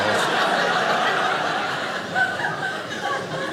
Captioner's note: audience laughing